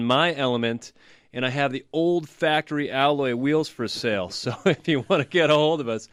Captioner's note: laughs